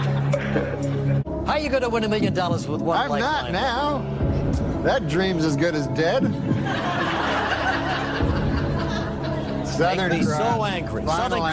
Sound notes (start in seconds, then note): 6.2 laughter